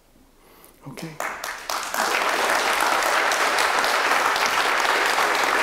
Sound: applause

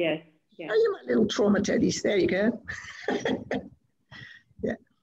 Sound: chuckles

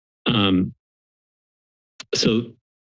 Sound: silence

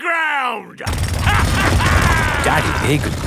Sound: drilling and laughing

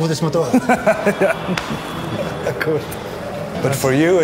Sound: laughs

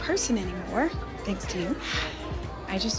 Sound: sighs

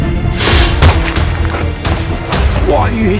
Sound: swish

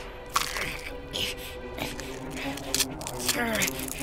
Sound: BEN grunts in agony

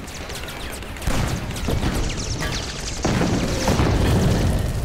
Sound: rapid gunfire exploding; cannon shots exploding; fire crackling

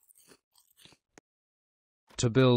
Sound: hotdog eating noise

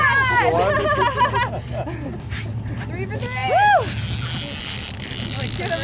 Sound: girls all talking excitedly

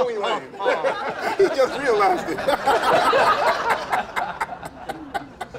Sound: laughter

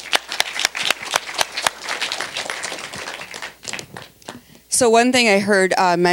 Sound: applause

